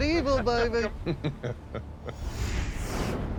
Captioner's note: laughter